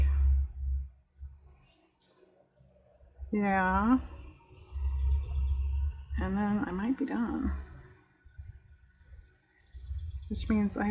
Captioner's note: sracstically